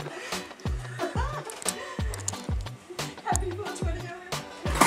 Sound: crying & Laughter

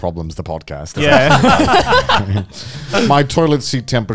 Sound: both chuckling

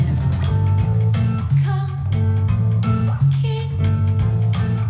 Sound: foreign language

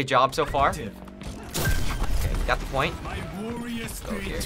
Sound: ding

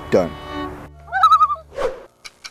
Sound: loon call

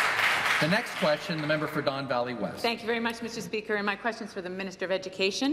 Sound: applause

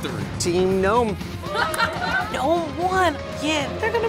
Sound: applause and laughter

